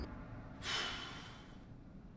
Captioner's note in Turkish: İç çekme sesi